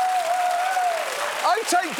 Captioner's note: cheering continues